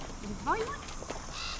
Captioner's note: woman mumbling to dog; bird squawking